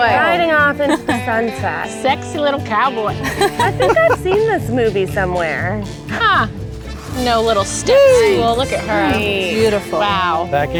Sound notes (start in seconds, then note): 3.2 women laugh